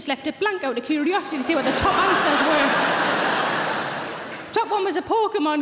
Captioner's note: audience laughing